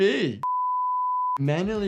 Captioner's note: color bar beep